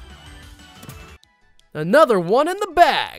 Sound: ball clicks

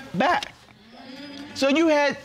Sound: audience murmuring in agreement

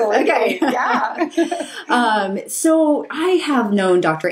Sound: laughing

